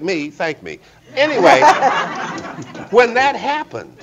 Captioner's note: audience laughing